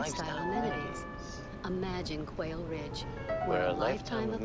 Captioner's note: voiceover